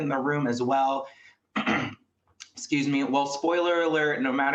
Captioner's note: coughs